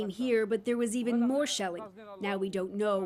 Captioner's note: speaking foreign language